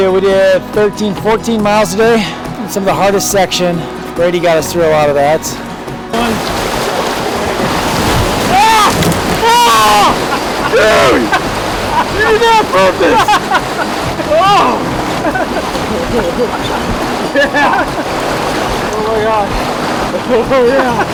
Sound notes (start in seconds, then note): 7.6 screaming; 14.4 laughing